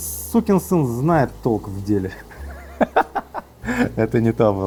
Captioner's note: laughter